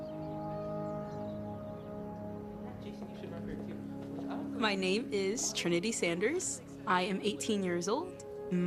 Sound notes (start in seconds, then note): 0.5 gentle music; 2.3 people chattering